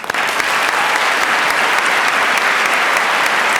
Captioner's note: applause